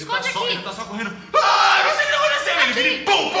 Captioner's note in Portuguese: grito